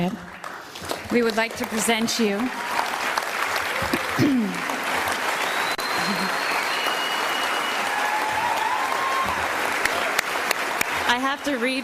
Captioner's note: applause